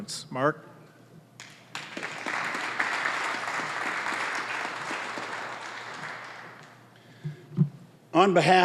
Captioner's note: applause